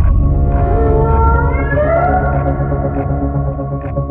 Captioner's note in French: Chant d'un rorqual